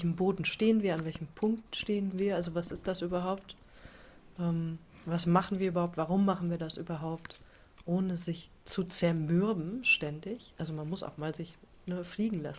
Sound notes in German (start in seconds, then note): none